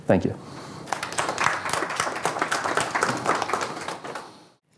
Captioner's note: applause